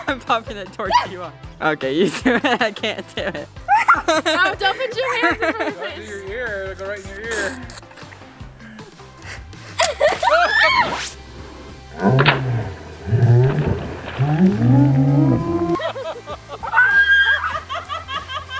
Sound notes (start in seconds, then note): 3.6 laughing; 9.8 balloon explodes; 14.2 laughing